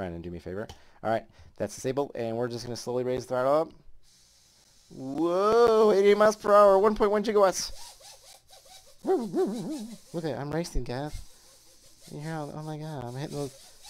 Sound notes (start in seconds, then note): 9.0 making stupid noises like an idiot